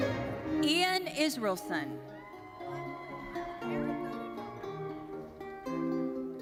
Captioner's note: audience cheering